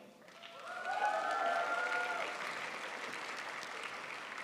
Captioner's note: crowd applauds